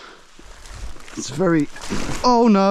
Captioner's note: water splashing